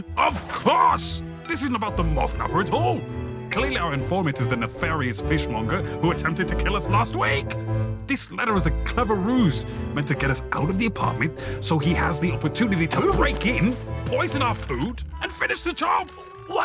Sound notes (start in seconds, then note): 13.2 Blockson grunts in surprise; 16.5 Blockson straining